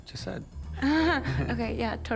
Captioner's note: chuckles